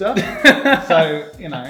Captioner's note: laughing